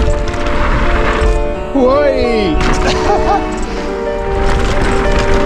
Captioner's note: biker exclaiming excitedly